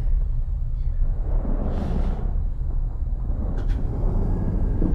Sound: thunder rumbling

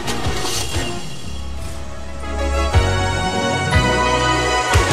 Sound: engine starting

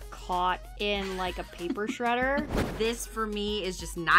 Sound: laughs

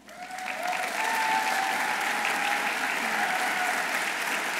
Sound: audience applauding

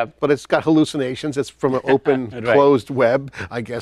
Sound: chuckles

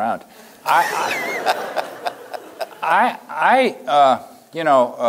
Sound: laughing

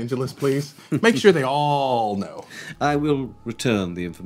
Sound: chuckling

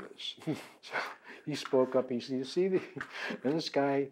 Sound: laughs

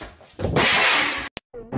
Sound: pan clangs against floor

